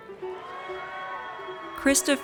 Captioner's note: audience cheers